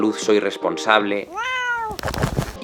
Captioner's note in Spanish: maullido de Miku